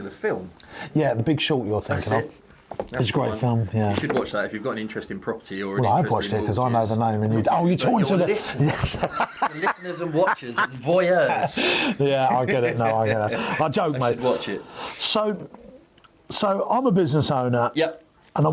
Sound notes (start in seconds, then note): 8.5 laughs